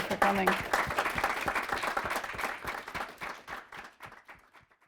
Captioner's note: applause